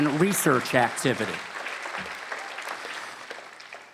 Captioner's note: applause